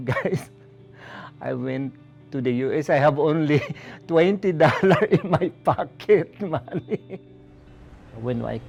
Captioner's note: chuckles